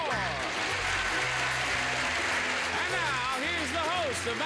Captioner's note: cheers and applause